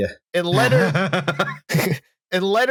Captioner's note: laughs